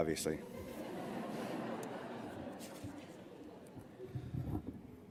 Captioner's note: laughter